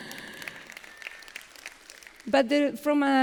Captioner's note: applause